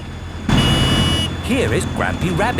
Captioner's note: honking